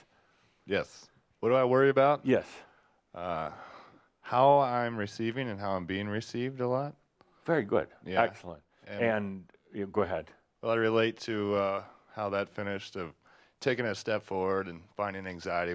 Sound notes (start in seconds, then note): none